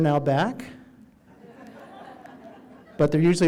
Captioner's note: audience laughing